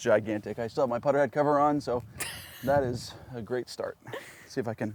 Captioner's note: laughs